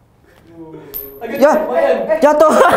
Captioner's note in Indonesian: koin jatuh